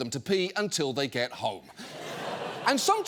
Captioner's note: audience laughing